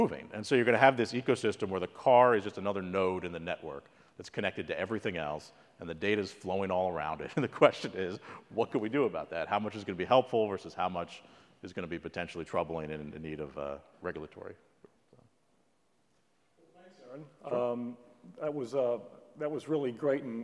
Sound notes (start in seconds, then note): 7.7 laugh